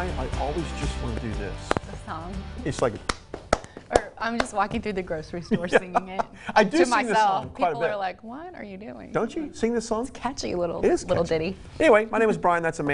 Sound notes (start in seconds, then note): 3.0 claps; 5.5 laughing